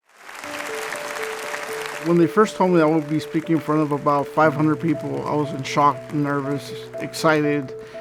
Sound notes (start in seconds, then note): 0.6 audience clapping